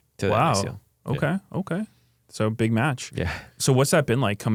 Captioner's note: laughs